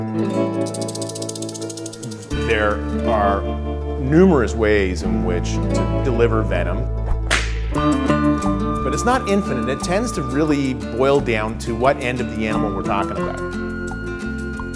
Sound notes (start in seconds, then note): 0.6 rattle; 7.2 whip crack